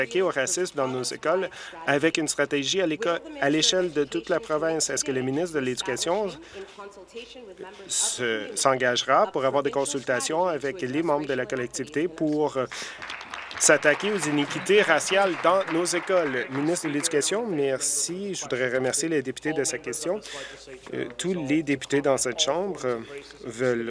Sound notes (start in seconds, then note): 16.6 applause